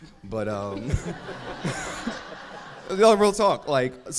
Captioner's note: crowd laughs